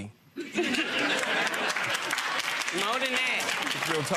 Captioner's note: audience laughing